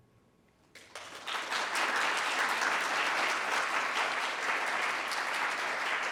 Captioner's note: applause